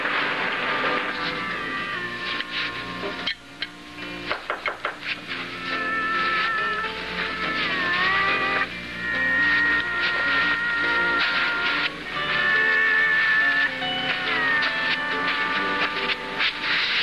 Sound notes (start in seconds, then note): 4.3 knocks